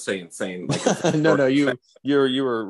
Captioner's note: laughs